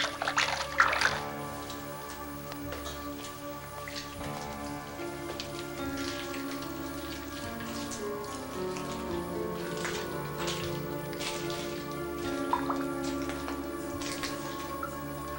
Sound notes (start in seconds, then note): 0.8 water splashing; 8.1 suspenseful music; 8.1 water dripping